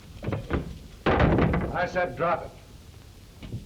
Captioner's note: door slamming